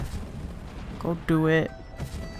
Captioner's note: said begrudgingly